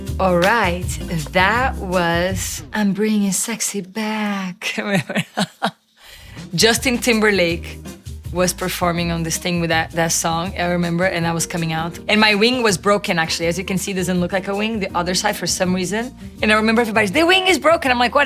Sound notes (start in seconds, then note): 4.6 Gisele laughing